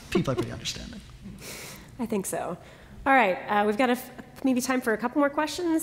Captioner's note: laughter